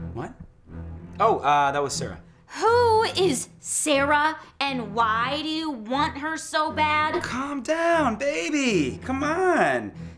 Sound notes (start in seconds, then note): none